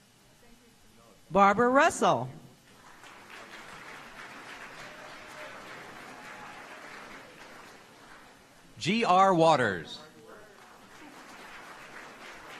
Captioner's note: applause